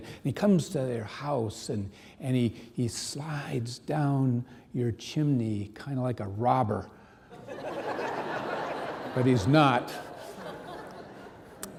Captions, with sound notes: "And he comes to your house. "And he slides down your chimney "kind of like a robber. (audience laughing) But he's not." (audience laughing)